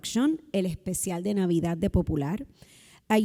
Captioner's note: speaking Spanish